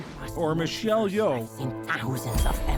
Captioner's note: voice-over